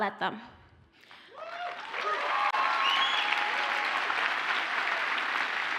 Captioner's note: audience cheers and applauds